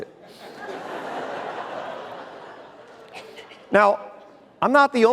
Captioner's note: audience laughter